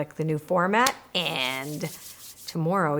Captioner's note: clapping and rubbing hands